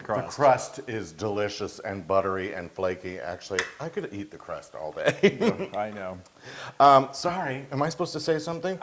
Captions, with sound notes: >> The crust is delicious and buttery and flaky. Actually, I could eat the crust all day. [LAUGH] >> I know. >> Sorry, am I supposed to say something?